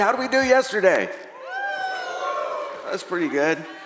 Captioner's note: audience cheering